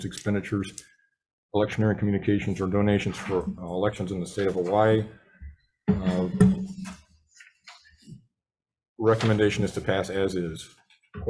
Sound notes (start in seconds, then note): 7.0 papers rustling